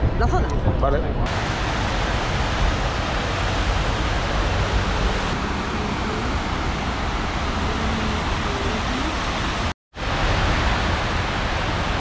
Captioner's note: water noise